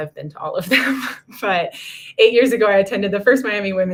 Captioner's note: laughter